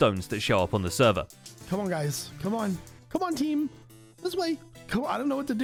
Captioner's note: baby voice